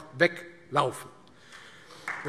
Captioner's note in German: Beifall Freie Demokraten